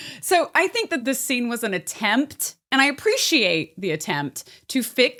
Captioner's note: none